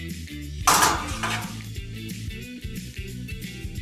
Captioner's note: oven clattering